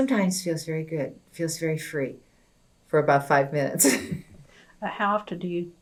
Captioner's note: laughs